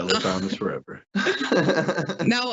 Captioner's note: laugh